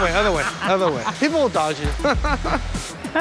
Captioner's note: laughs